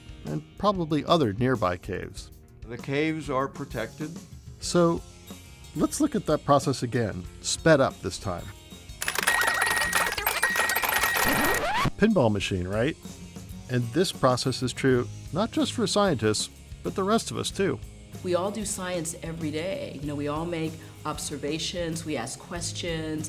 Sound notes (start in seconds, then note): 9.0 speedy pinball sounds